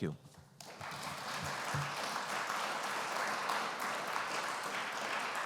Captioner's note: applause